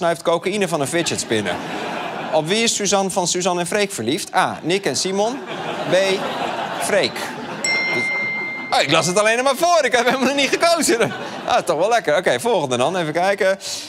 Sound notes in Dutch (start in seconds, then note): 7.6 ping